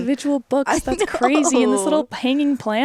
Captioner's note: laughs